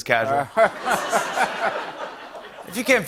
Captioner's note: laughter